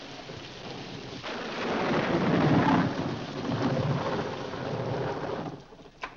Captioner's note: rain falling heavily; loud thunder; door opens